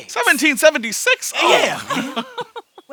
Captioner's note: laughter